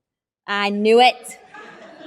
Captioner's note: laughter